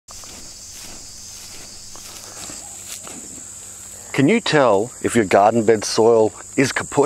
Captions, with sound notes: (crickets croaking) (soil rasping) - Can you tell if your garden bed soil is kaput